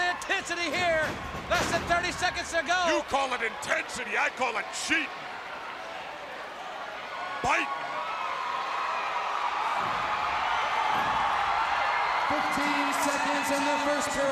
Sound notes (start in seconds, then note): 5.8 crowd cheering